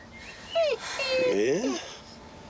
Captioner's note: wolf whines